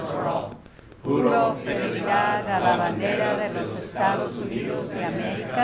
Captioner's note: speaking Spanish